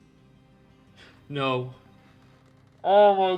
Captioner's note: quick breath